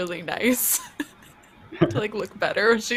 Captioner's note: laughs